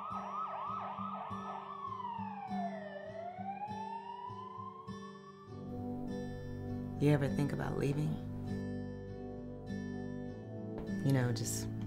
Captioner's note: police sirens; gentle music